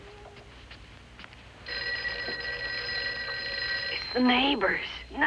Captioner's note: phone Rings